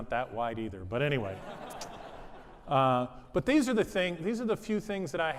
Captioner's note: laughter